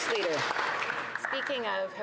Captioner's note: some Applause